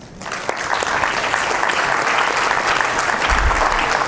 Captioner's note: crowd applauds